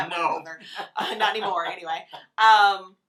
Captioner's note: laughs